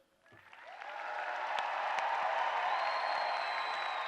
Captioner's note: applause